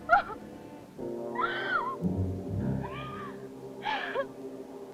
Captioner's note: sobbing